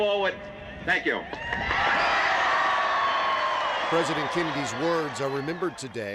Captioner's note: cheers